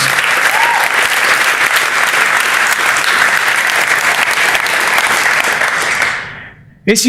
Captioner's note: applause